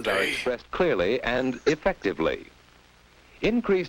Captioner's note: giggling